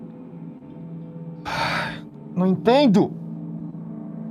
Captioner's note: sighs